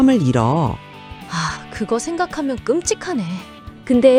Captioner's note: sigh